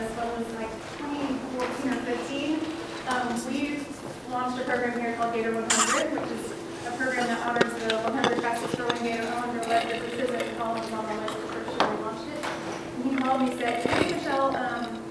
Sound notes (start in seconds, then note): 5.6 lid squeaks; 10.1 murmurs